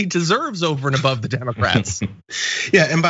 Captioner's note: laugh